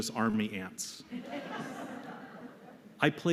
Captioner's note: laughter